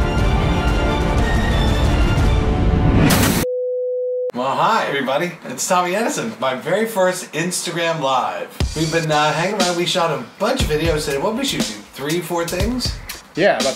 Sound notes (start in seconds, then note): 3.2 static / tone